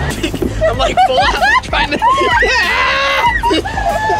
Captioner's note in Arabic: صراخ